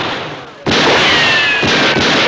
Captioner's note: continued gunshots; moans